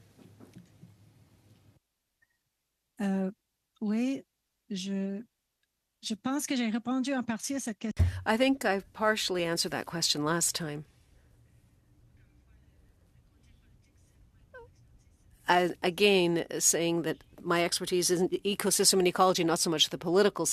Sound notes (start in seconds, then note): 7.1 speaking French